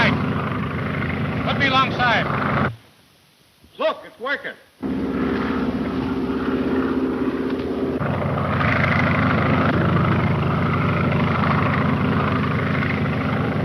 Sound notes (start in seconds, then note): 6.9 engines roaring